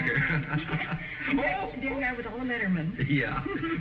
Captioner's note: chuckles